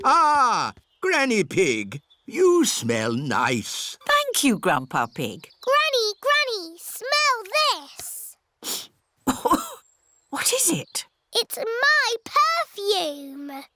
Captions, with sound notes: Ah, Granny Pig, -you smell nice. -Thank you, Grandpa Pig. Granny, Granny, smell this. (SNIFFS AND COUGHS) What is it? It's my perfume.